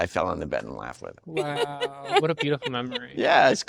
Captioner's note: laughing